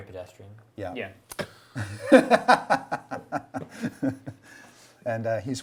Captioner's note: group laughs